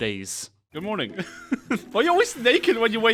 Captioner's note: chuckles